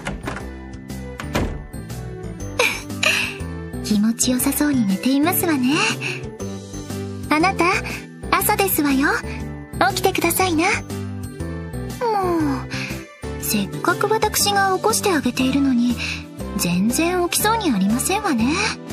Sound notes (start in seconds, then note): 2.6 giggle